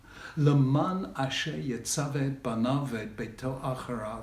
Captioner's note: speaking in Hebrew